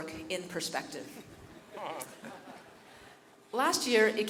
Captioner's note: chuckles from faculty